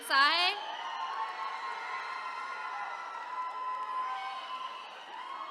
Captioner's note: attendees cheering